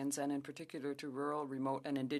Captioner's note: speaking French